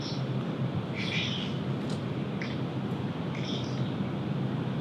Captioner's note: door shuts